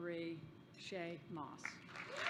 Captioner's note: applause